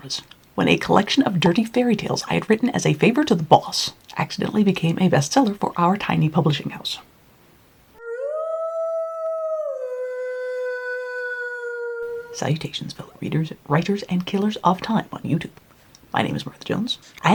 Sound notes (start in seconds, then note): 10.8 wolf howl